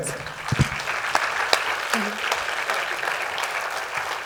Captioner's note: applause